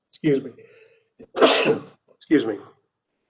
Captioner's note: coughs